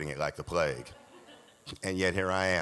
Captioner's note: audience laughs